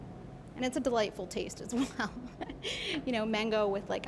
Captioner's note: laughing